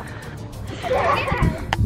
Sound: giggling

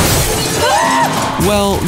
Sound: screams

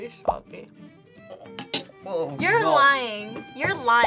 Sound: gags

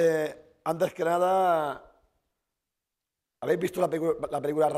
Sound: speaking spanish

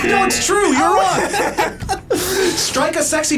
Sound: both laugh

